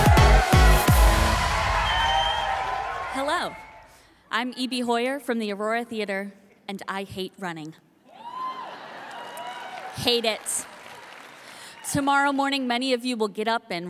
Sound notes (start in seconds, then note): 8.1 audience cheering